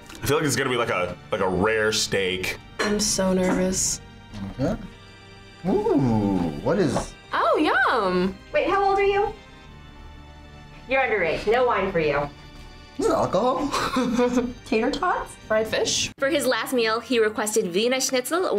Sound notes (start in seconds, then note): 13.3 laughs